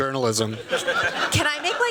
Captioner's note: laughter